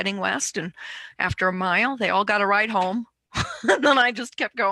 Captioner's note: laughs